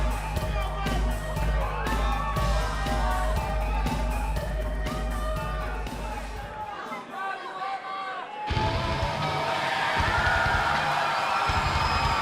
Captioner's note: crowd cheering